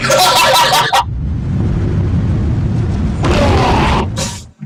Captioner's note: rumbling noises; laughter